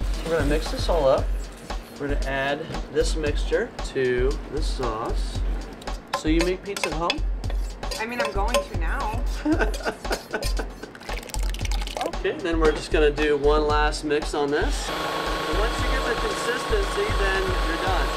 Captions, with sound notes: We're gonna mix this all up. We're gonna add this mixture to the sauce. So you make pizza at home? I mean I'm going to now. (laughter) Okay. Then we're just gonna do one last mix on this. Once you get the consistency then you're done.